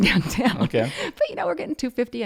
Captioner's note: laughs